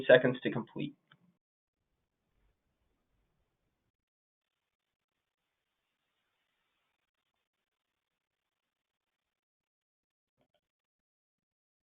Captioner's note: silence